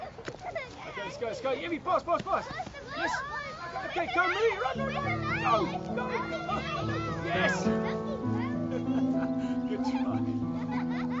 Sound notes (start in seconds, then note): 2.1 Hansie and children laugh and shout